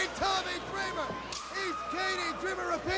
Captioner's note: crowd chatter